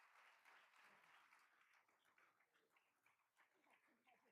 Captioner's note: all applauding